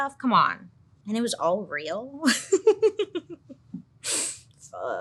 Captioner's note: laughs